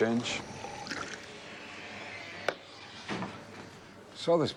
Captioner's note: beer trickling